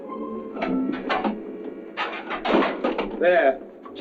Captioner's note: metal clanking